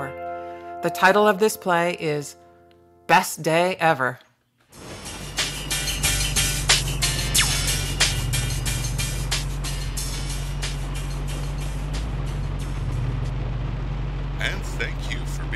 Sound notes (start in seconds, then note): 4.7 music on radio; 5.0 sound of car engine